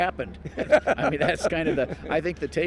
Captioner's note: laughing